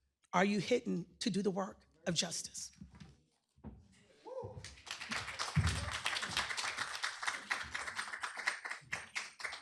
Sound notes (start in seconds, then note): 4.6 applause